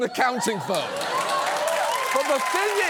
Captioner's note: audience laughs, cheers